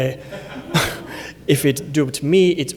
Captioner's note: laughter